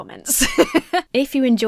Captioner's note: laughs